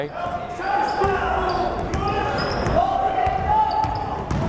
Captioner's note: yelling